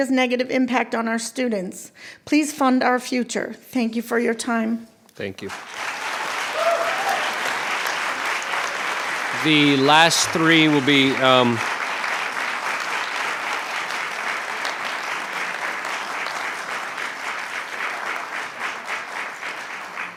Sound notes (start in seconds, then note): 7.5 cheering; 12.3 clapping